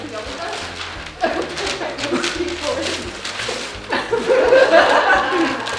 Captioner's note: audience laughing